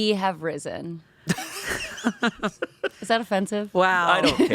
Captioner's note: everyone laughs